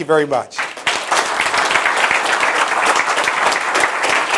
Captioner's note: applause